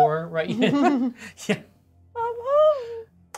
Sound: laughs

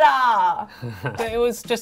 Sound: laughs

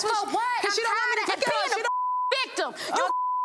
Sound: beep

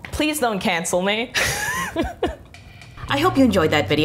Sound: laughs

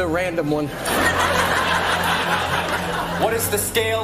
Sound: audience laughing

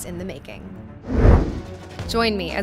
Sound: air swooshing

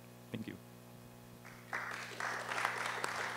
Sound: applause

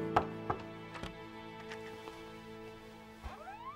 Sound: knocks

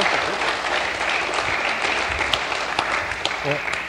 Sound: applause

